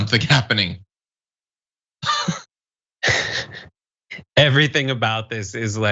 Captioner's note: laugh